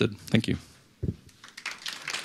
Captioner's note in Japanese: マイクの音; 拍手